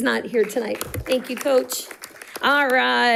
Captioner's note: audience applauding